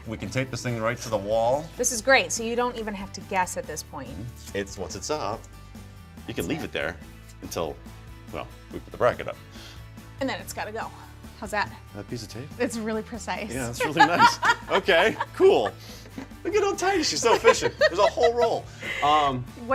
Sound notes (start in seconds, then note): 13.6 laughs